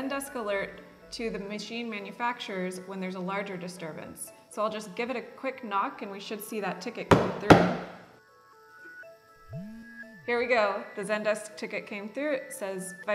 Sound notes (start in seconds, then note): 7.1 knocking; 9.3 phone vibrates